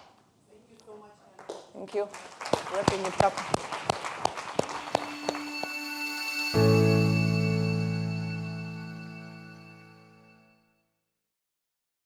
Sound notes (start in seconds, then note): 1.9 audience applauding; 2.7 speaking faintly; 4.7 soft digital music